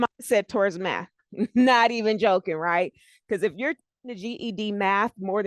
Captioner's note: breaking voice